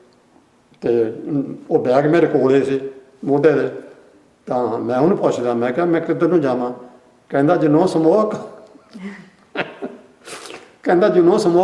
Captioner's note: laughs